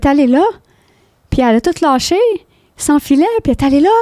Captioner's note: in french